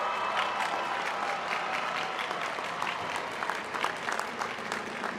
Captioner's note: applause